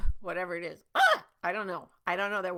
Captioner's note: screeching